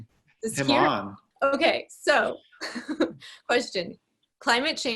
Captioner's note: laughs